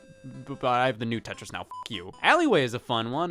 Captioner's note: beep